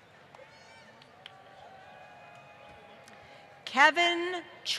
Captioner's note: applause